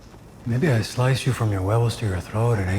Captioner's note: speaks Spanish